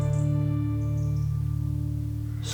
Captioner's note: birds chirping